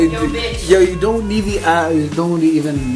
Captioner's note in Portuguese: resmungos